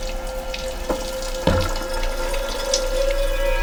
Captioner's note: banging